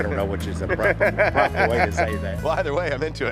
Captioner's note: laughs